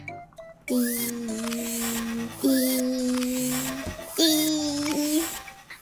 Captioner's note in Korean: 기계 작동중